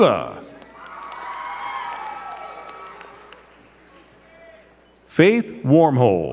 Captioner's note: crowd cheering and clapping